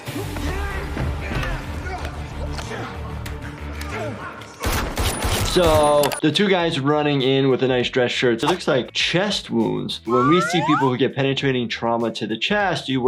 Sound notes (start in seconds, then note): 1.6 men yelling; 4.7 gun firing